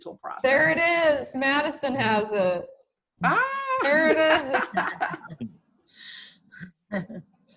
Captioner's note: laughter